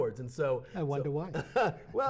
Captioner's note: laughing